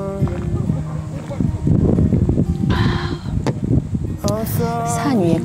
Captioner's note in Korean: 바람 소리 죄송함댱...ㅠㅠ